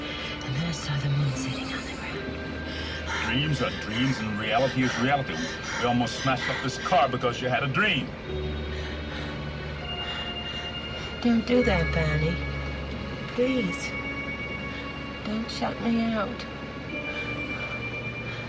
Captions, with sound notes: And then I saw the moon sitting on the ground. - Dreams are dreams and reality is reality. We almost smashed up this car because you had a dream. (tense music) (pants) - Don't do that, Barney, please. Don't shut me out.